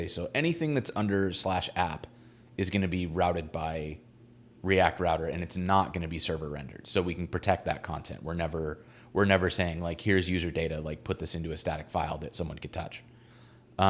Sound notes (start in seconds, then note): none